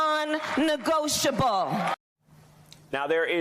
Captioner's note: applause